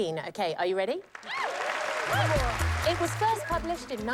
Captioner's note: cheers and applause